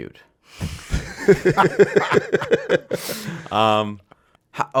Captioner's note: laughing